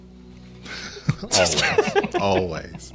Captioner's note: laughs